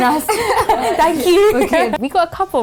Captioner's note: laughing